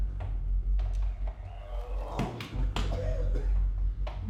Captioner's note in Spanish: Clint se ahoga